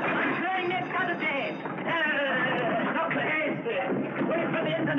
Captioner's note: whistle trills